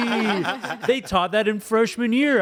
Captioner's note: everyone laughs